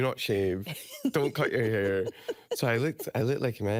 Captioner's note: laughing